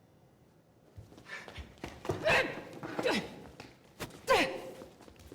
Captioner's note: groaning